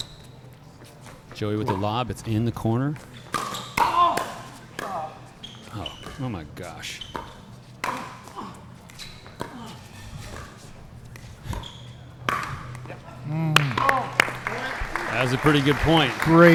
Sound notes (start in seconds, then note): 3.3 ball being hit; 3.5 shoes squeaking; 7.4 ball being hit; 7.4 shoes squeaking; 13.5 applause